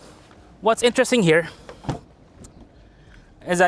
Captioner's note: door opens